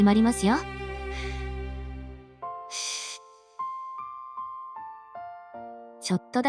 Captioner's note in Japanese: 深呼吸